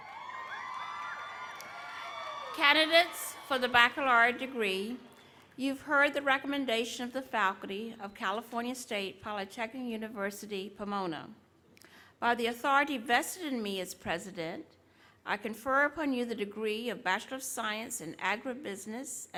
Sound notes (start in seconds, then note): 0.0 cheering